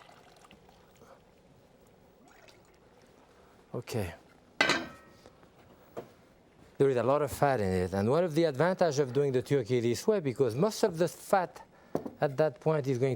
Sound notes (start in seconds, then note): 4.6 pot clanging